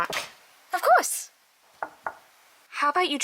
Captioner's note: knock